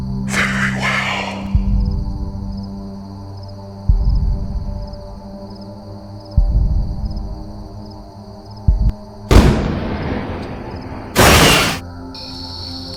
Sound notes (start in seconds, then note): 9.3 lightning strike; 11.1 crashing sound